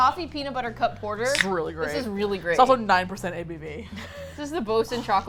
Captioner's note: laughs